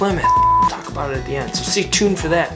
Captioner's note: graphics beep